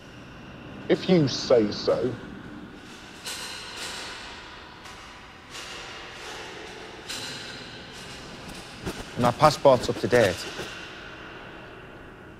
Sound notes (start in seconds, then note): 2.8 metal clattering